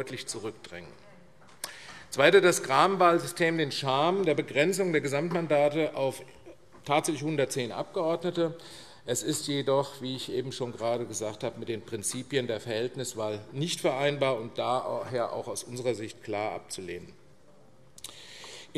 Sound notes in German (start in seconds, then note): none